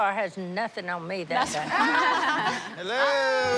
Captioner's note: laughter